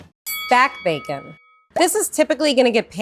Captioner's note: bell rings